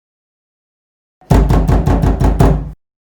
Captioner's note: door banging sound